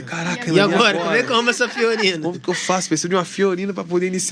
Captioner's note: risadas